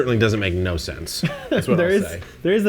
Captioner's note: laughs